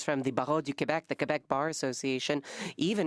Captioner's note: speaking French